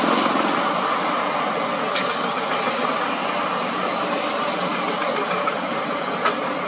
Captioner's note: excavator Rumble